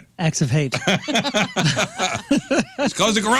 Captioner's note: laughing